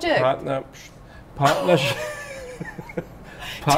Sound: both laughing; gasps

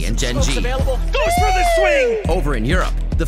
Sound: casters cheering

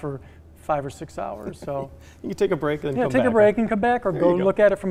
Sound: chuckling

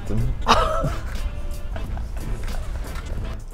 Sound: laughs

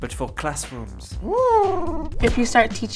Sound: Huti hoots

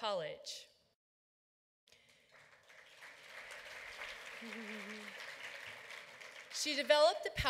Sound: applause

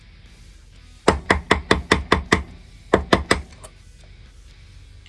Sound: tapping/banging

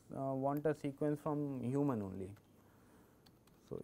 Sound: click

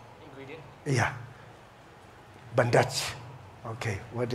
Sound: man talking; speaking foreign language

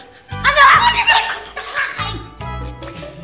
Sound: gasps

